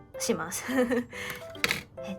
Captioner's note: tee-hee